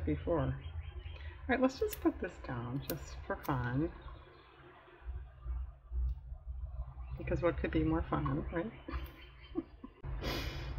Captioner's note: laughs